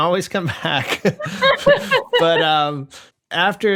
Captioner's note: laughter